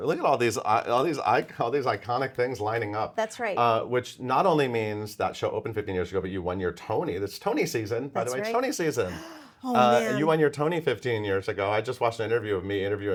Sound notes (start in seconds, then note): 9.0 gasps